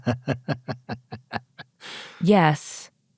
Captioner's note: laughs